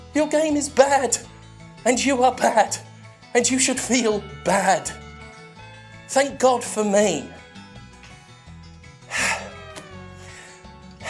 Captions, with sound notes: Your game is bad and you are bad and you should feel bad. Thank god for me. (sighs)